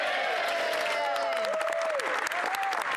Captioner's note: speaking French